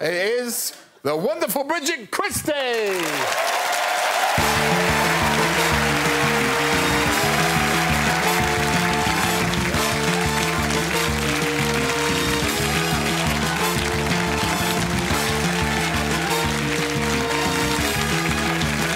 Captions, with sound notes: We have to go now, but tonight's winner is... the wonderful Bridget Christie. [cheers and applause] [theme music playing]